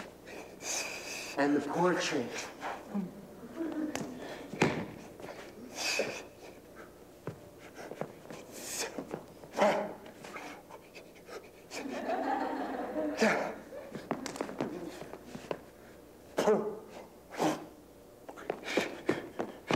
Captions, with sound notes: And the portrait [Laughter]